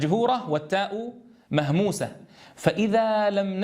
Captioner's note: breathed out